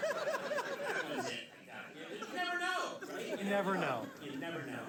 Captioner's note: laughter; laughter